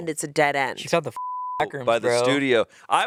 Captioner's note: beep